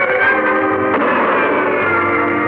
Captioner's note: gunshot fires